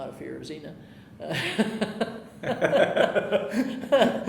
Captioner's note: laughing